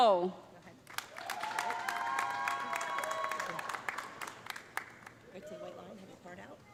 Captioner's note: audience applauding; audience cheering